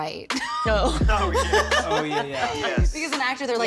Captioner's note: laughs; laughter